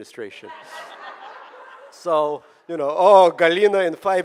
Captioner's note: audience laughing